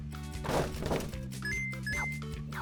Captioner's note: item beeps; fence crashing; item beeps